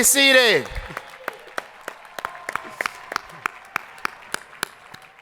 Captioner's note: crowd applauding